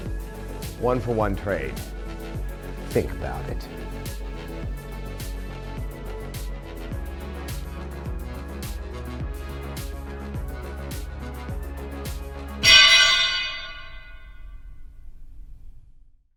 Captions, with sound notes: One for one trade. Think about it. (pole clanging)